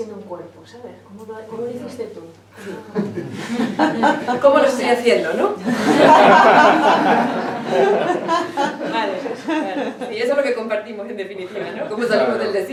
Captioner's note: laughs